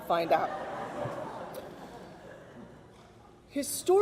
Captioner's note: audience laughs